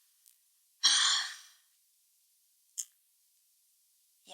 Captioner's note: sighs